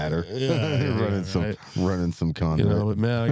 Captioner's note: laughing